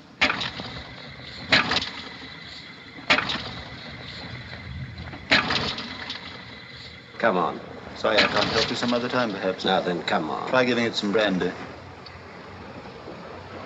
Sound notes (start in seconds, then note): 0.6 engine coughs but doesn't start